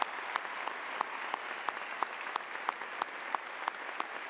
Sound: cheers and applause

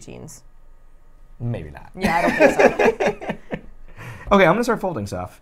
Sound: laughs

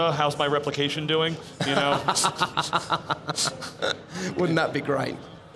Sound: laughs loudly

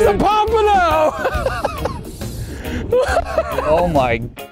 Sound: laughs

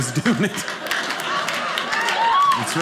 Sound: audience laughing

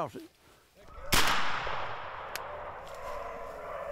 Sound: gunshot

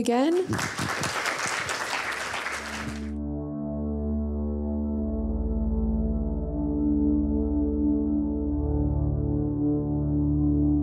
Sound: applause

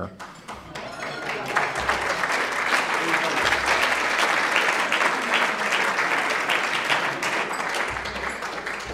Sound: applause

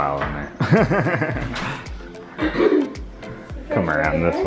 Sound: chuckles

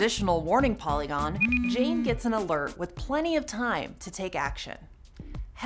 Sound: phone vibrates and rings

